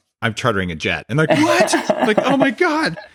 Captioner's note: laughs